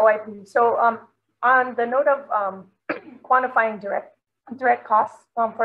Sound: coughs

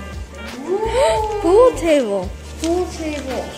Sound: gasps

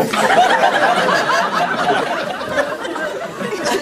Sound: laughter

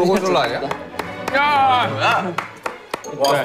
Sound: applause of truth

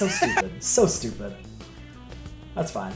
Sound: laugh

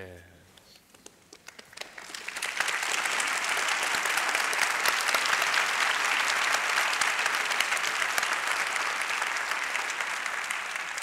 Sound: applause

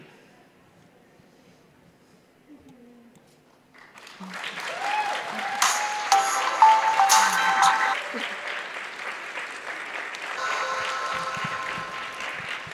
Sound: applause as radio show music fades out

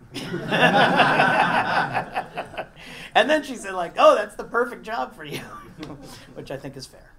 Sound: laugh

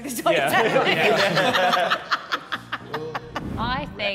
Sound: all laughing

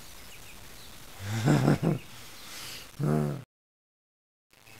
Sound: manic Laugh

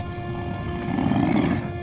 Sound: growling

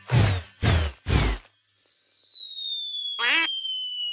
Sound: Pato quacks; falling whistle

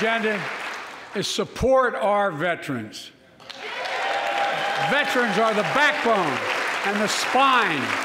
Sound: applause

